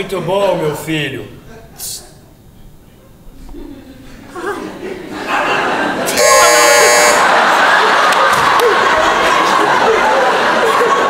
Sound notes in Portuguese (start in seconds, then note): 6.1 campainha